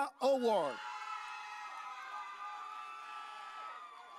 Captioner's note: audience cheering